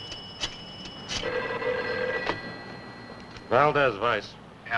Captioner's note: phone Rings